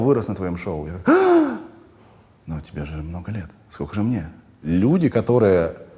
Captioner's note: gasps